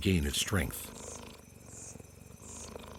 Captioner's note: sound of a cheetah